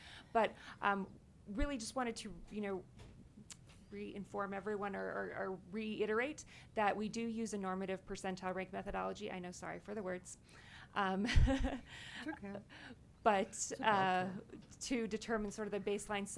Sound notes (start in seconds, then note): 11.3 chuckles